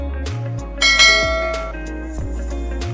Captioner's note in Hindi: घंटी की आवाज़